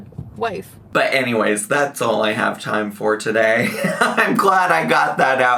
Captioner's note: laughs